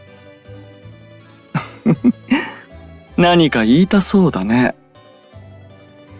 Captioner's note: laugh